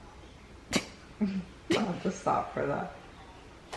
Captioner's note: laughter